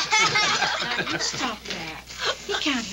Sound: Royal and boys laughing

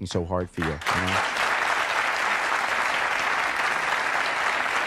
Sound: audience applauding

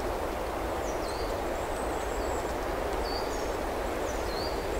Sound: wind blowing

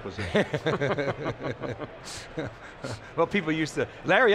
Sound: hosts laugh

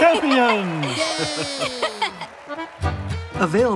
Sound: crowd cheers

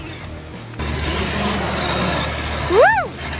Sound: engine buzzing

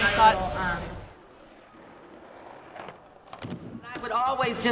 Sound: skateboard sounds

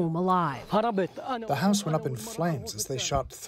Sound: through translator

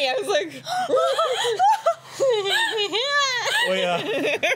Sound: exasperated gasps and laughs

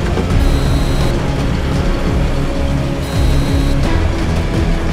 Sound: beeping

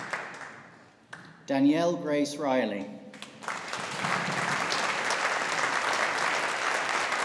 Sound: audience applauding

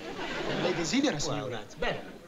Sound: speaking italian

